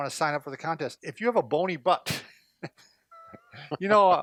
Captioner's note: chuckles